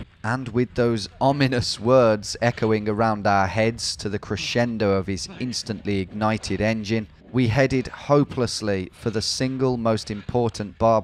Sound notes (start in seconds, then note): none